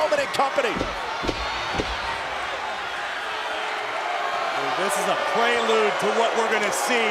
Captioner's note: applause